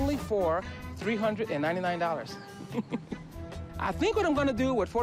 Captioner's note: chuckles